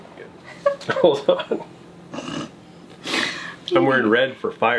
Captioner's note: laughing